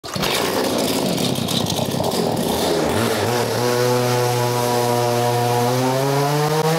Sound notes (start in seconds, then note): 0.0 motor starts; 4.0 motor revving